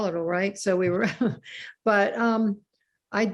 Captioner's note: laughs